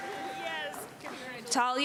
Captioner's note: applause and cheering